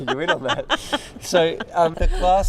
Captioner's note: laughs